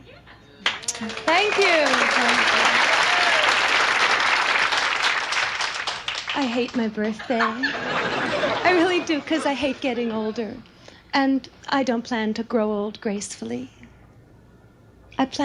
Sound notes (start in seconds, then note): 0.6 audience applauds; 7.1 audience laughs